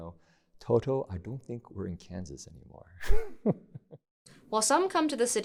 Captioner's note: chuckles